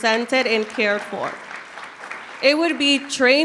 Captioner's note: audience clapping